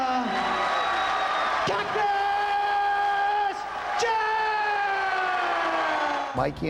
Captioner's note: applause